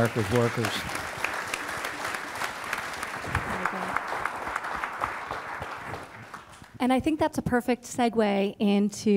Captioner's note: applause